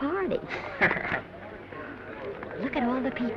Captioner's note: Danny chuckling